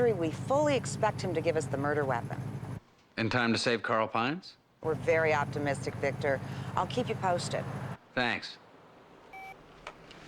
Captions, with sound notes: When he comes out of surgery, we fully expect him to give us the murder weapon. - In time to save Carl Pines? - We're very optimistic, Victor. I'll keep you posted. - Thanks. (phone beeps)